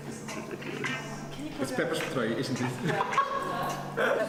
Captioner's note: laughter